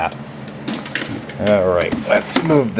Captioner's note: random clunking and clattering